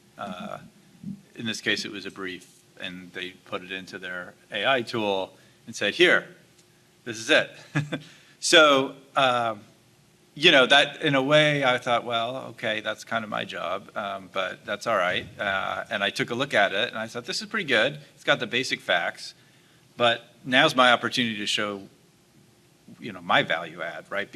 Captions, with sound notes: In this case, it was a brief, and they put it into their AI tool and said, "Here, this is it." (laughs) So you know, that in a way, I thought, "Well, okay, that's kind of my job, but that's alright. And I took a look at it, and I thought, "This is pretty good. It's got the basic facts" But now's my opportunity to show you know, my value add, right?